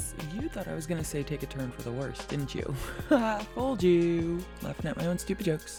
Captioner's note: laughs at her stupid jokes